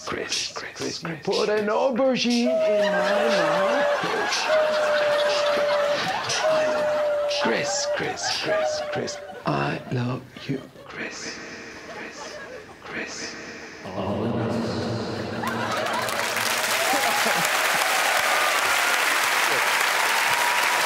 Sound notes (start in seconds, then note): 1.6 echoes; 13.7 echoes; 17.5 cheers and applause